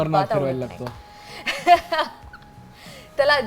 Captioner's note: laughs